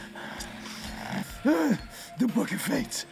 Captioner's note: finger thudding